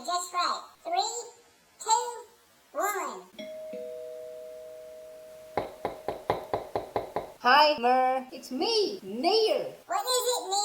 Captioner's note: doorbell rings & knockin'